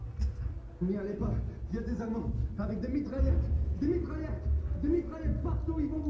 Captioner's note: speaks in foreign language